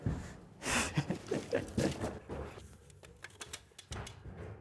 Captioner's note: laughing